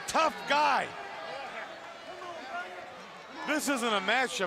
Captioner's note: crowd chatter